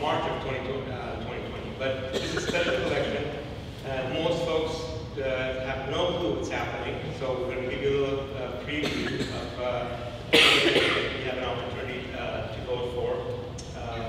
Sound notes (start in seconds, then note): 10.3 person coughing